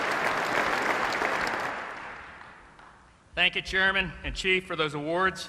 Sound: applause

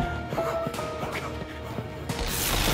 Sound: panting

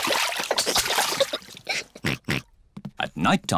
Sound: giggles; oinks

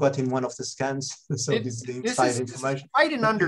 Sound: laughs

